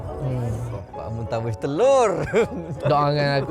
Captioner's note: laugh